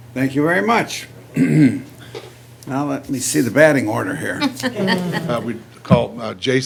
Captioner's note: clears throat; laughter, groans